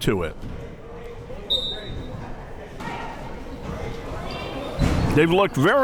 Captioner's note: whistle tweeting